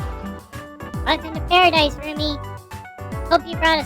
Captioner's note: deadpan